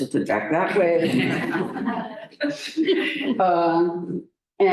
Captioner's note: laughter